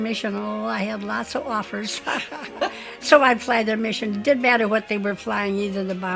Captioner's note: laughs